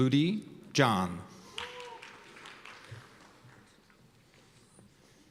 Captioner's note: cheers and applause